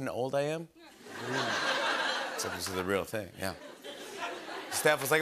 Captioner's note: laughter